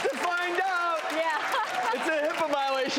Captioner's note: laughs